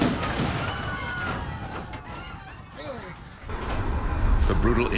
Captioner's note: passengers screaming